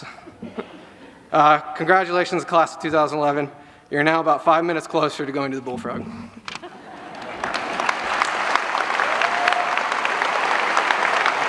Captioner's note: applause